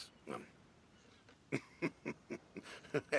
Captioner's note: chuckling